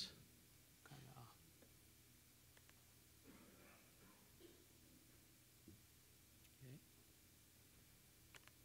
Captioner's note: speaking in Chinese